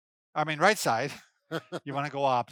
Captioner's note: laughing